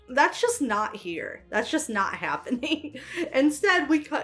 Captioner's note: laughs